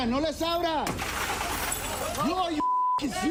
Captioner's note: glass shatters